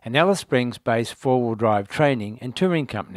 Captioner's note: none